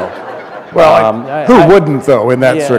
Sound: laughter

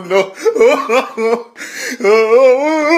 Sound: laughs harder; laughter rises in pitch to match the image changing

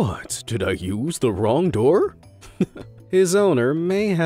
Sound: chuckles

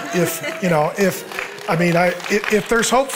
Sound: audience cheering

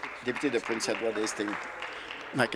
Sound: applause

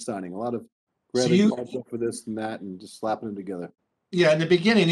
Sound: speaking faintly

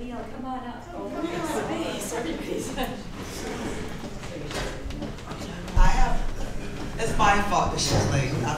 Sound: chattering in the crowd

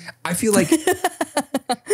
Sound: laughing

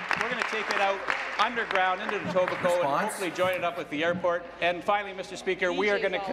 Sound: applause

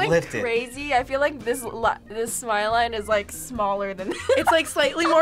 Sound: laughs

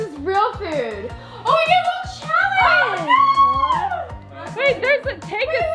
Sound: squeals

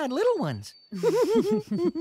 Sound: giggles

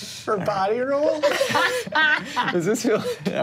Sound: laughs

